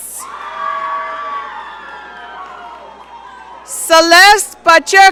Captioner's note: audience cheering